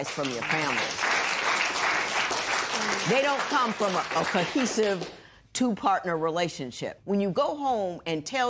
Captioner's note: applause